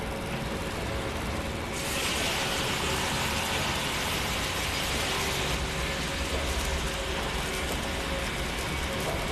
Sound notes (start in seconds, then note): 1.7 saw buzzing; 7.1 machinery clanging loudly